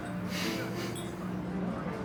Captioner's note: laughs softly